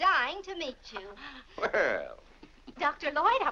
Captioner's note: chuckles